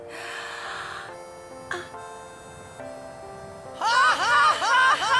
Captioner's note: Yuna inhales deeply